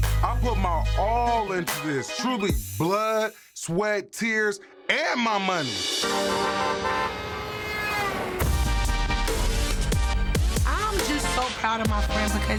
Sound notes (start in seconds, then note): 6.0 car horns honking; 6.2 thumping hip-hop music